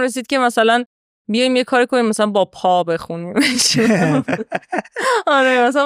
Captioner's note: laughs